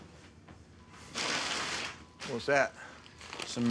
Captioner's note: bag rustles